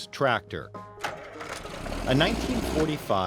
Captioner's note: tractor starting up